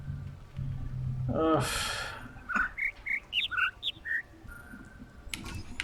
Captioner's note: overlapping birds chirping, ˥ ˧ ˥ ˩